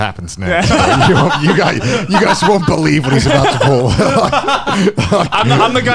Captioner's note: laughs